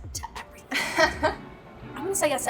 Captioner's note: laughing